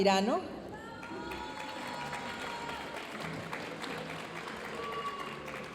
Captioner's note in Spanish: aplausos y vítores de la audiencia